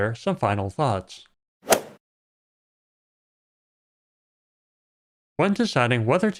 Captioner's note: golf ball hit sound